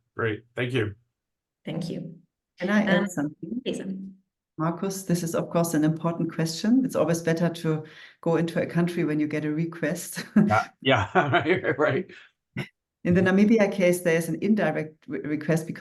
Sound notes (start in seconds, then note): 10.3 laughs